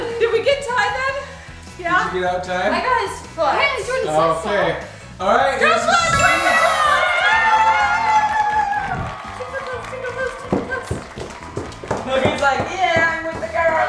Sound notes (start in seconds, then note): 8.0 cheering; 9.2 round of applause; 10.4 cheering